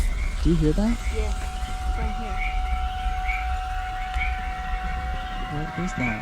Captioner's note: car